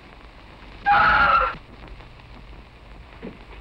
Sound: screaming

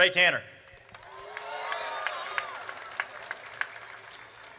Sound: audience cheers

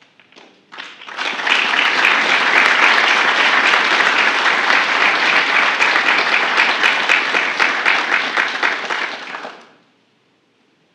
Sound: applause

